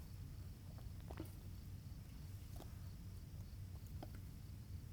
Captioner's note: insect chirping continues